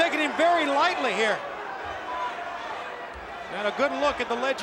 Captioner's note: applause